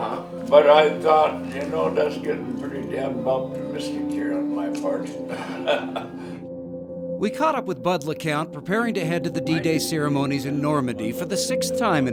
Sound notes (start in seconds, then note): 10.8 laughs